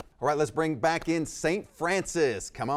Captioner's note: none